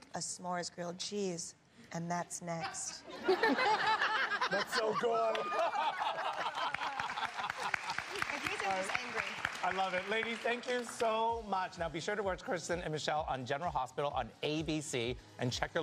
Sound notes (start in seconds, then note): 3.0 laughter; 6.7 cheers and applause